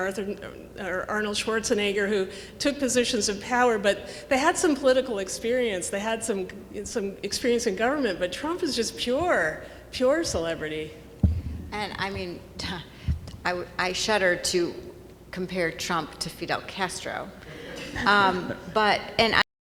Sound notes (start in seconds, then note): 17.4 audience laughing